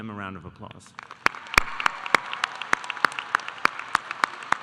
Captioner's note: audience applauding